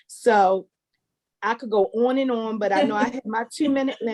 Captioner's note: laugh